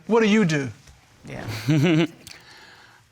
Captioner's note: chuckles